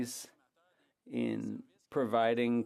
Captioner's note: speaking French